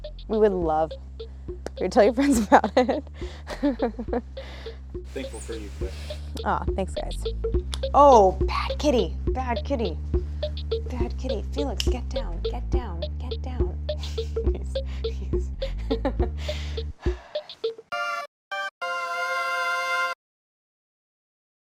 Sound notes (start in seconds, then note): 3.7 Claire chuckles; 13.9 Claire laughs; 18.5 whimsical music